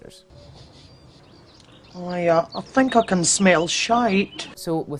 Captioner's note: sniffs